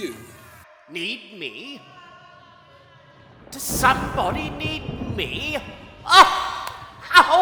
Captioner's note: sound of thunder